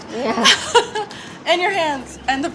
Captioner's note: laughs